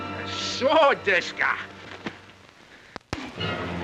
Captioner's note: speaking in Japanese